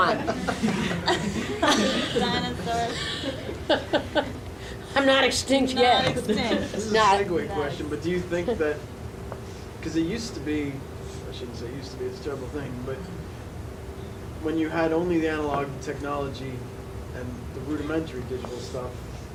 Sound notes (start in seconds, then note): 0.0 audience laughing; 3.8 laughs